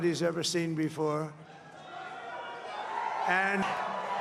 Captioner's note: applause